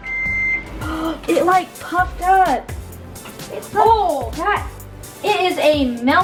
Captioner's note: gasps